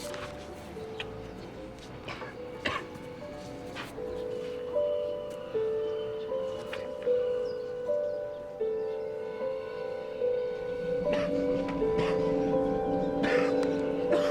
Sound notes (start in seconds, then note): 2.0 coughs; 10.9 coughs